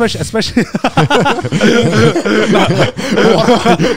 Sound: all laugh

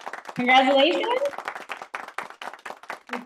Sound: hands clapping

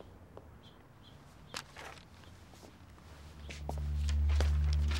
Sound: paper rustling

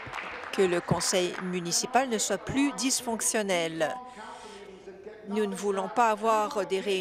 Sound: applause

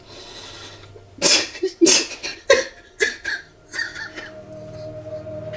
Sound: crying

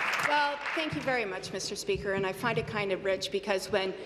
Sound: some Applause

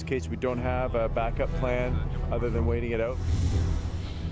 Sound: voiceover

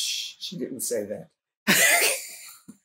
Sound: laughter

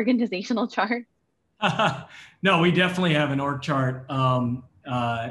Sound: laugh

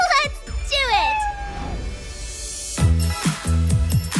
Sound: cat meows

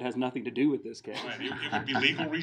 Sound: laughing

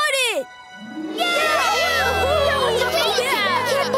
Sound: cheering

